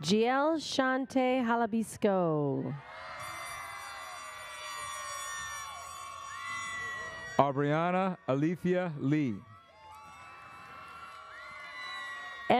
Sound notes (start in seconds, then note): 2.9 crowd cheers; 10.5 audience cheers